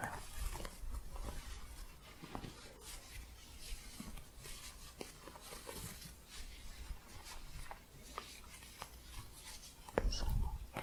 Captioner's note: shuffling